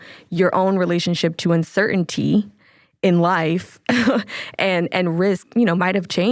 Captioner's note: chuckles